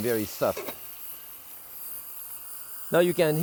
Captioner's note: steam hissing